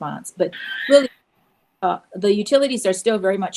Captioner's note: bird calling